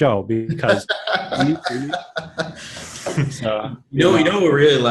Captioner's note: laughing